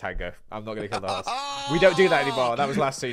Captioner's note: laughs